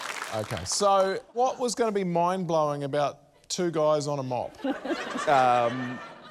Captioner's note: laughter